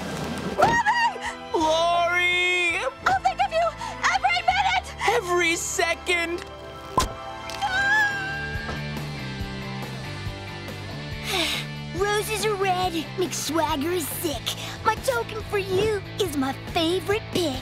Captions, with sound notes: - Bobby! - Lori! I'll think of you every minute! Every second! [crying] [sighs] Roses are red, Mick Swagger is sick, my token for you is my favorite pick.